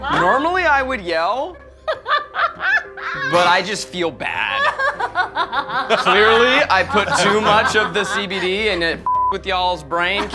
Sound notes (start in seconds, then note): 1.9 laughing